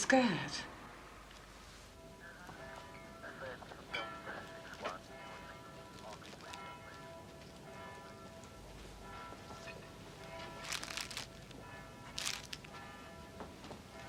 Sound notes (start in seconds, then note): 2.1 church bells toll